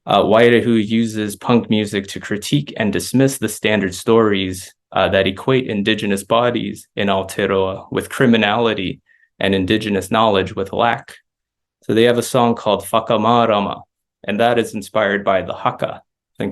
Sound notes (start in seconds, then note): 12.9 non-english speech